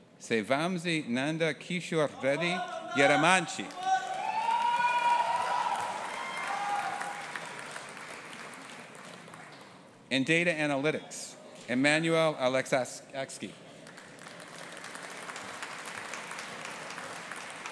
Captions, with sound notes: Sai Vamsi Nanda Kishore Reddy Yeramanchi. (AUDIENCE APPLAUDING AND CHEERING) In Data Analytics, Emmanouil Alexakis. (AUDIENCE APPLAUDING)